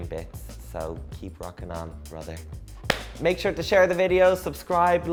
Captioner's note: claps